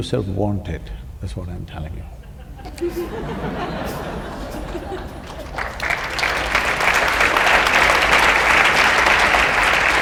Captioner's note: laughter/Applause